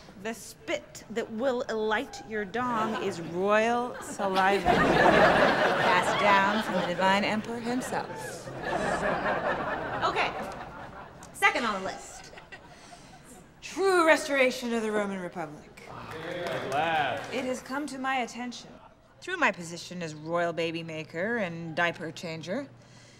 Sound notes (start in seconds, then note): 4.9 laughter; 8.9 laughter; 16.0 applause